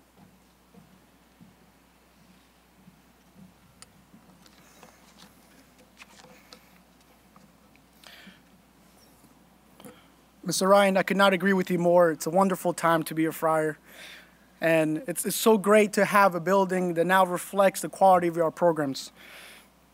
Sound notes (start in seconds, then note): 4.4 pages turning